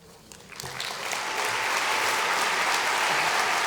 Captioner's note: applause